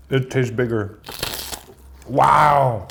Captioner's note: sandwich crunching